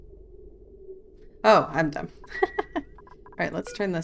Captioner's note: laughs